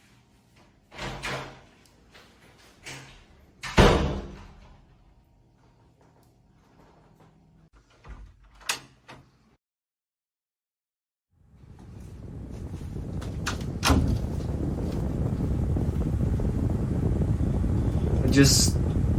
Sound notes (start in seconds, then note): 3.6 slams door